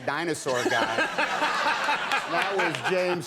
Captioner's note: audience laughing; Conan laughing